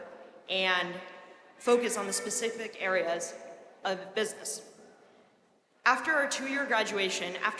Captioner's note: none